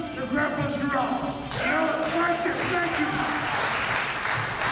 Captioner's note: applause